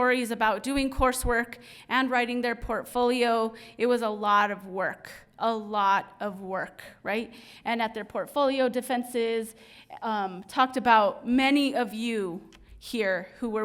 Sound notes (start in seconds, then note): none